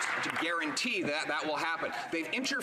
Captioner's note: some Applause